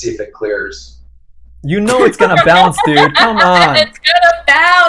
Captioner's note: laughs